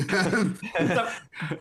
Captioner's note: laughs